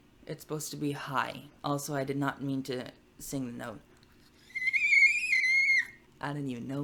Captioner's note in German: kreischend